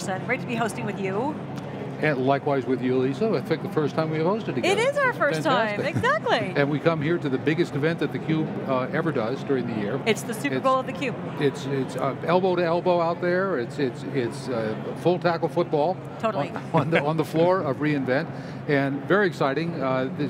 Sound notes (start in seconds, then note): 16.5 laughs